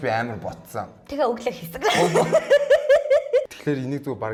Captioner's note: laughs